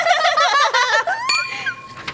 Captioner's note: laugh